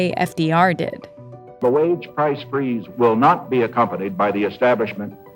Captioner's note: soundbite of archived recording